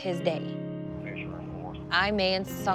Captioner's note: man chatters over radio